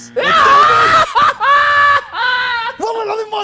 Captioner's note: shouting